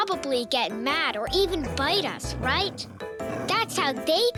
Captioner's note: dog growling